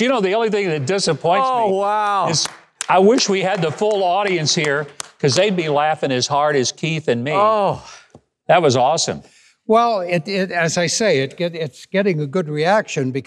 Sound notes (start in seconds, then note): 2.3 clapping